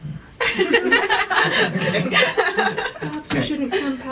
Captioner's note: laughter